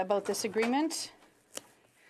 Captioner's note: speaking French